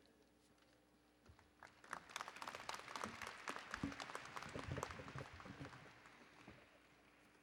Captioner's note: applause